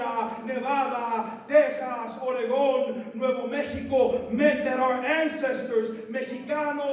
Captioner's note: non-english speech